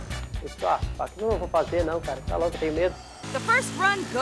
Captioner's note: biker speaking foreign language